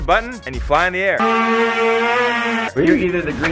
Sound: hoverboard buzzing

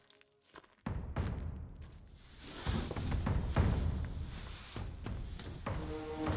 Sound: distant footsteps

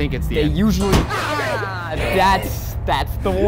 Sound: screaming

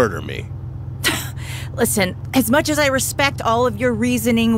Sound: laughs

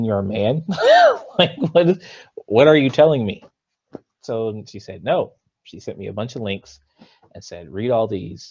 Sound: laughs

